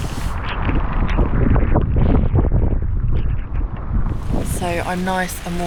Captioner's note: wind & rain